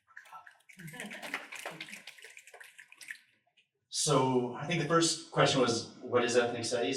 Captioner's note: snaps